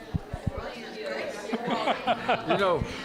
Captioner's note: laughs